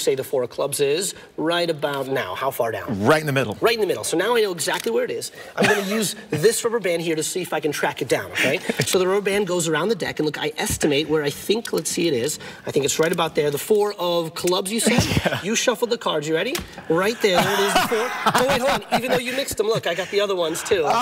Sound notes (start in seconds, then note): 8.4 laughs; 14.8 laughs; 16.8 laughs